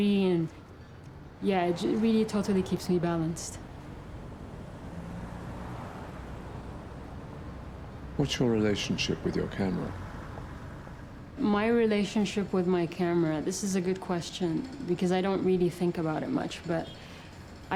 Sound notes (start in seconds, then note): 8.3 voiceover